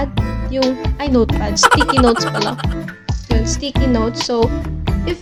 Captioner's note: laughs